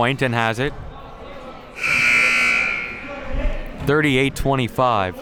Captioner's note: buzzer sounding